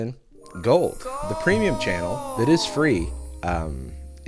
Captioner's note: echo